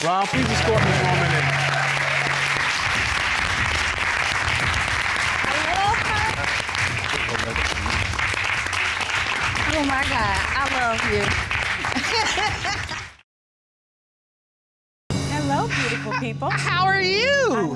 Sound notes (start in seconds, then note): 1.7 audience cheering; 7.3 audience applauding; 12.0 chuckles